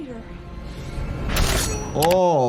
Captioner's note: blade sliding